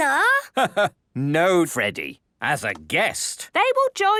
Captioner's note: laugh